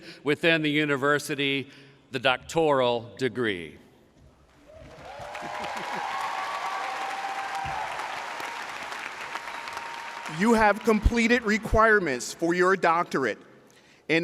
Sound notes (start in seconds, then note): 4.6 audience cheering